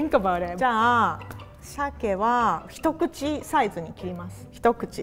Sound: speaks in foreign language

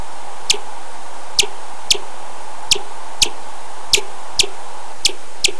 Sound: louder chirps over white noise; white noise ends

